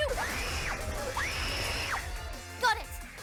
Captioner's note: screaming